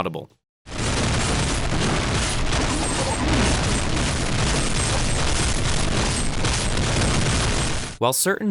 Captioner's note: loud, clipping, overlapping noise